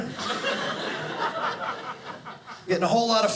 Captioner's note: audience laughing